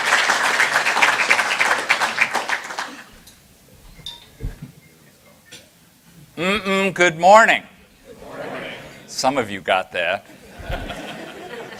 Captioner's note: laughter